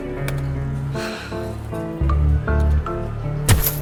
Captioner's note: exhaling